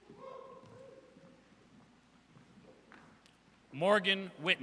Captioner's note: audience cheers